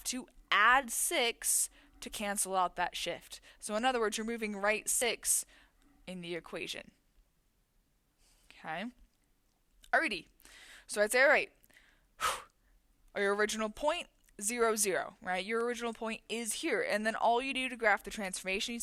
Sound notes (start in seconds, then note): 11.7 exhales